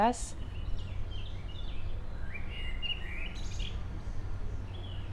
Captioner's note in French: bruits d'oiseaux